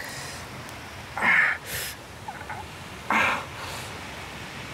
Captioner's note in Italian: Gemendo di dolore